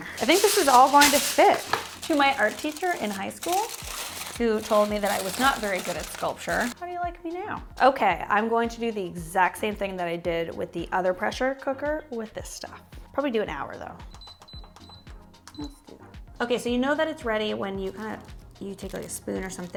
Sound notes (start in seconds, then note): 14.6 beep sounds